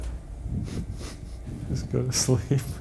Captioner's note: laughing